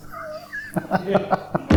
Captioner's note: laughs